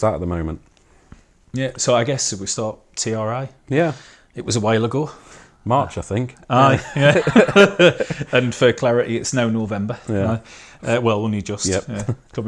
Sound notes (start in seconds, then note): 6.7 laughing